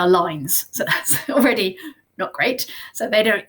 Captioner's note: laughs